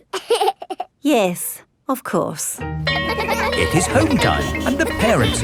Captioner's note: giggles; school bell rings